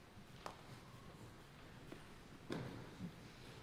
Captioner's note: none